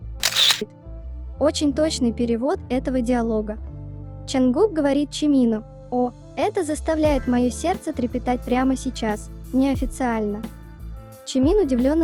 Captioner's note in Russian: неформально